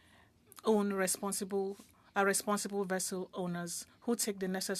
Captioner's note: speaking French